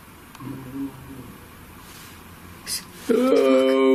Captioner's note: growling